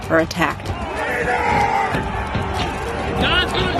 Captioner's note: shouting